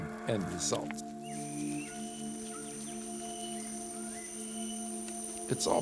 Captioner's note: birds chirping